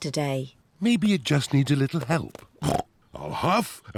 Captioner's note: snorts